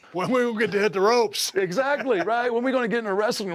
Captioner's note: laugh